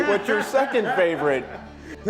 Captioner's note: laughing